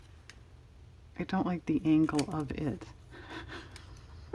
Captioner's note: laughs